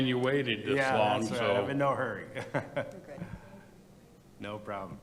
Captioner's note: laughs